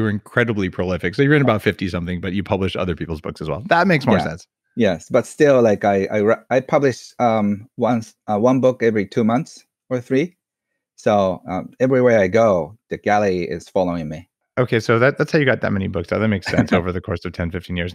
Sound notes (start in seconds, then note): 14.6 murmurs